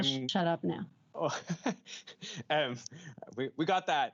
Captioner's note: chuckles